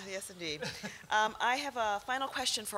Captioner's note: laughter